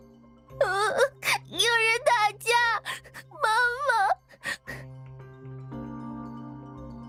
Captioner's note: sob